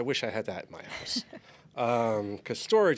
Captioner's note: giggles